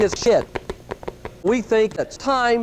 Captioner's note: frantic footsteps